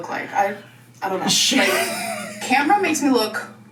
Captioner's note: laughs